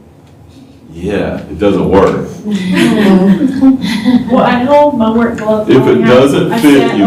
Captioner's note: laughter